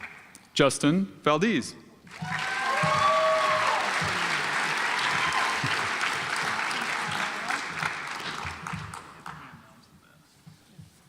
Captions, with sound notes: Justin Valdez (audience applauds)